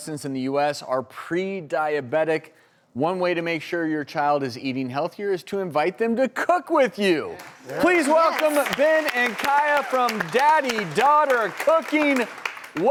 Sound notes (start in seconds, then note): 7.4 applause